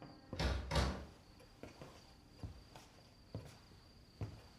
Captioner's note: door clicking